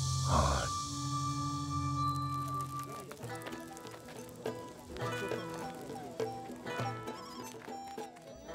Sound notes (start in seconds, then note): 2.1 gentle upbeat music; 2.5 fire crackles